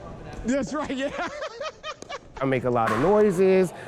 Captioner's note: laughs